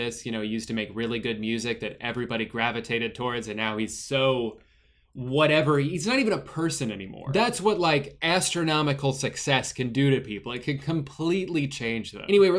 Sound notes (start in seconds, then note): none